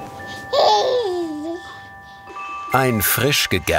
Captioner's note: cheerful baby sounds